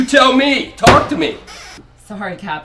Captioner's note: hands thud